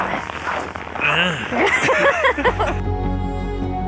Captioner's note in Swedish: Skratt